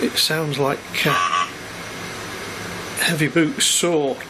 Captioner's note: computer buzzes